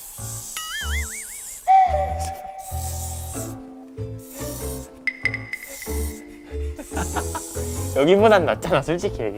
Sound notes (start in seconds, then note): 5.5 the sound of a spray is intense